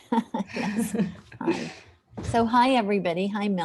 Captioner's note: laughter